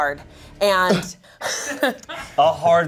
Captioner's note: laughing